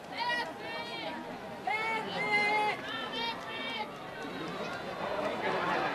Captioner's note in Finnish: Aplodeja